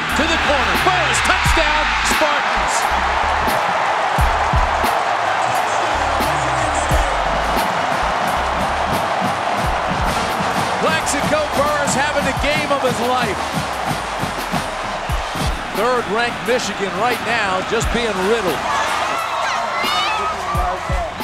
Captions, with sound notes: To the corner, Burress, touchdown, Spartans. (crowd cheering) (band music) Plaxico Burress having the game of his life. Third ranked Michigan right now just being riddled.